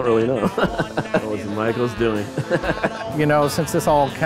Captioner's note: laughs